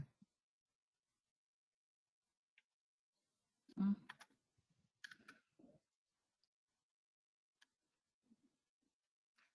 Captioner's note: 9 seconds pause